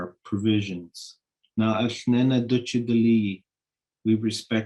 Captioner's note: speaking in Native language